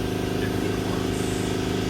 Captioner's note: engine revving